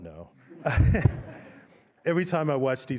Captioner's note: laughter